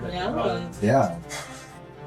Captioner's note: sighs